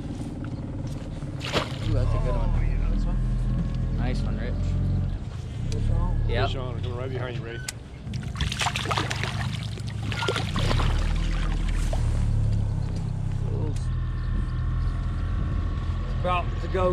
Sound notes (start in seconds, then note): 10.7 fish splashing